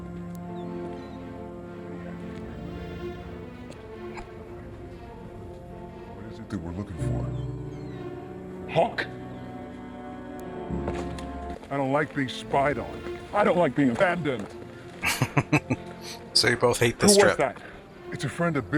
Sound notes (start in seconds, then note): 15.0 chuckling